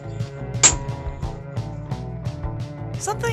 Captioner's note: door shuts